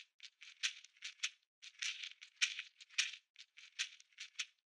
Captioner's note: Kachina rattle continues